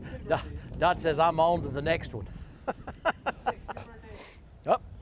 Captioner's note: laughs